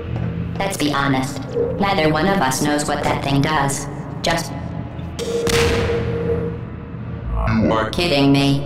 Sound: explosion

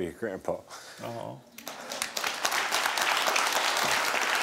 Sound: audience applauding

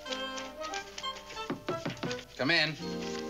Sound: knock on door

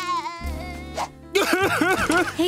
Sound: crying

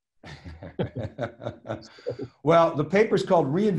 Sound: both chuckles

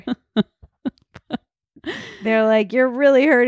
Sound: laughs loudly

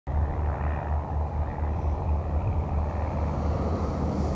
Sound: light airplane in distance; bus noise and air suspension hiss

